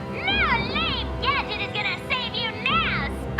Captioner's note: intercom